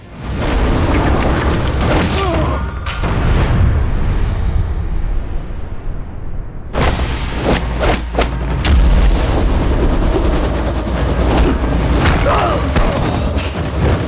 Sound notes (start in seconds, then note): 12.2 grunting